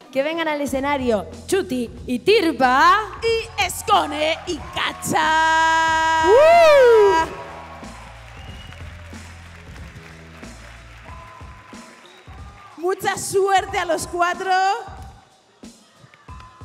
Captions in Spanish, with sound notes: Que vengan al escenario Chuty y Tirpa... ¡Y Skone y Cacha! (Aplausos) Mucha suerte a los cuatro.